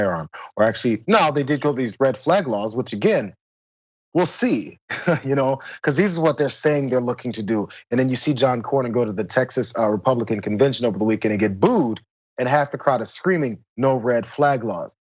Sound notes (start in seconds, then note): 4.8 laugh